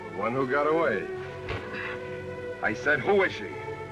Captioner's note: sighs